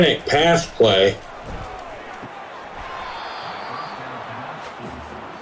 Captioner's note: crowd cheering